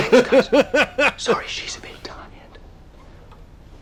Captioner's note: whispering